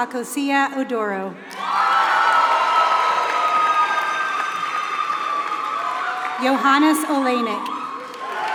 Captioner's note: applause